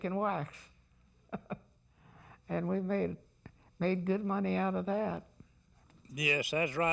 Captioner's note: laughs